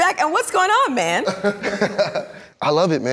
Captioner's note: laughs